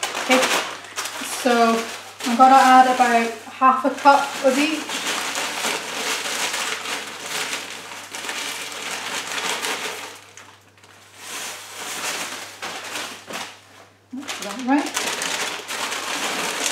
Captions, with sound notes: So I'm gonna add about half a cup of each (bag rustles)